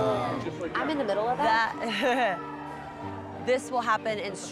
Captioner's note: chuckles